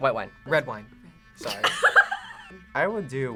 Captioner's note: laughs